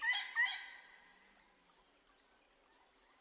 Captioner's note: none